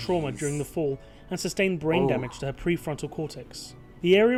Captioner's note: voice-over